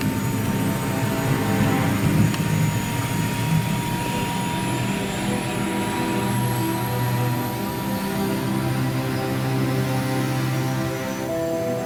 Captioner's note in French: bruit de l'hélicoptère